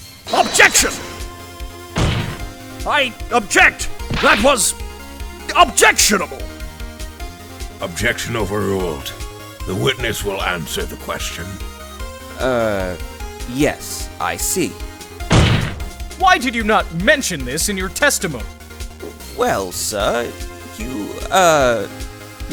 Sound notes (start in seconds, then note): 1.9 slam; 15.3 slam